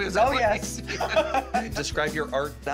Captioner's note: laughing